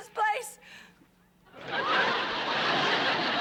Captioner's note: laughter